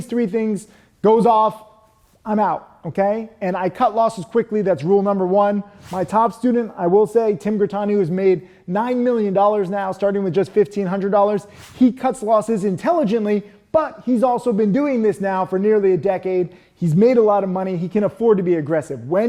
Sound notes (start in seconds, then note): 5.7 animation whooshes; 11.4 animation whooshes